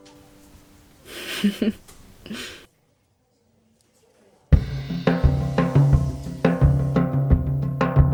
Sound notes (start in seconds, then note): 1.0 Kit chuckles